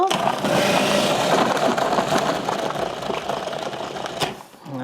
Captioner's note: food processor whirring